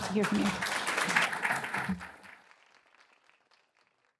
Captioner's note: applause